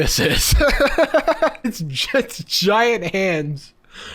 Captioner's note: laughing